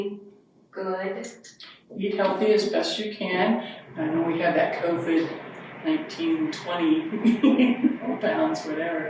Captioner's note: chuckles